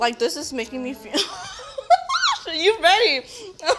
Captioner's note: laughs